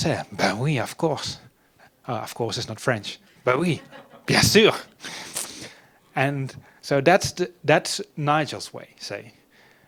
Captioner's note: French speaking